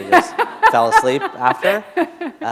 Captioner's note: laughter